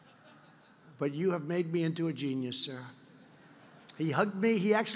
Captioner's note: laughter; laughter